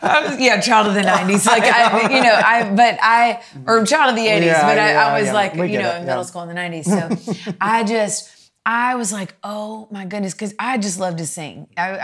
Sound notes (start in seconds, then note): 6.9 chuckles